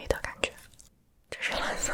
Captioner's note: silence